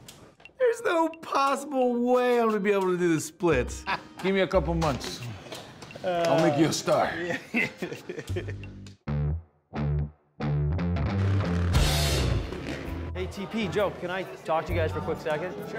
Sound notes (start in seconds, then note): 7.5 laughs